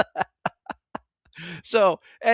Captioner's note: laughing